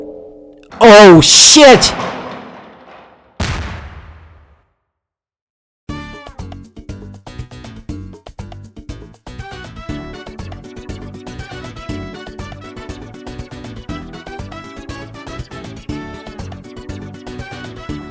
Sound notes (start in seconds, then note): 3.3 detonation